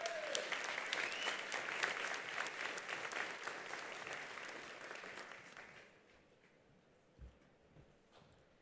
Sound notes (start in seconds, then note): 0.0 attendees applauding; 1.0 attendee whistling